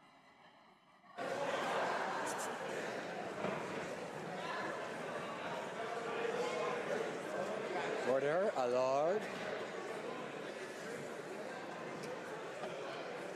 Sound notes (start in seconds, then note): 2.6 laughter